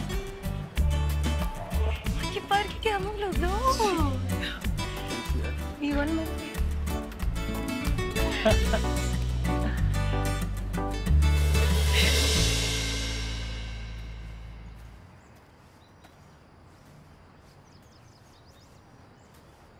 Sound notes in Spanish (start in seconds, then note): 13.6 Ríe